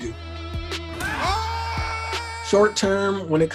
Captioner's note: upbeat music; man cheering